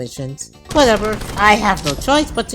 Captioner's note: gunfire